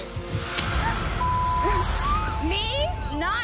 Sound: beep

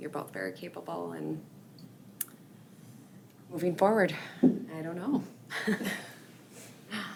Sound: chuckles

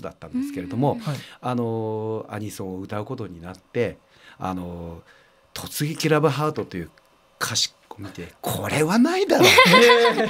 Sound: laugh

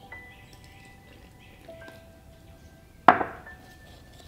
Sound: pouring

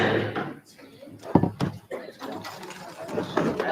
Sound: mallet bangs

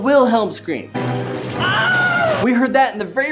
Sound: man screams

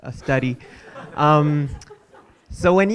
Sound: audience laughing

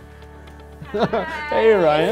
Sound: laughs

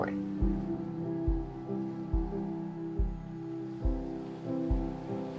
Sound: waves crashing

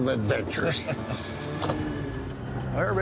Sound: laughs

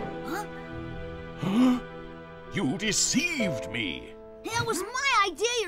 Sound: gasps

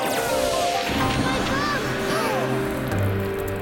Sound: crowd gasps

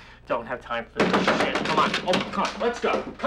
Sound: door banging

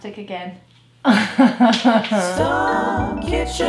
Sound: cries

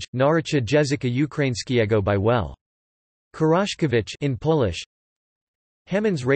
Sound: in Polish

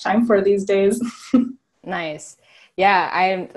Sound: laughing

